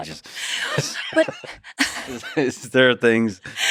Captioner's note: both laughing